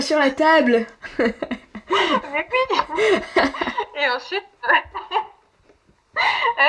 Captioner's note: laughs